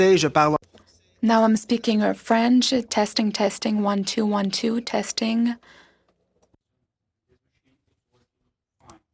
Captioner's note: speaking French